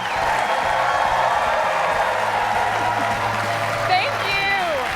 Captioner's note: applause